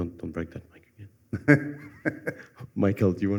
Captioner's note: laughter